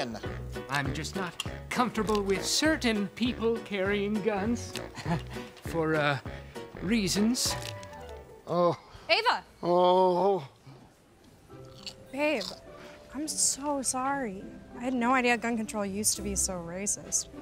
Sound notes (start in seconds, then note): 4.8 chuckles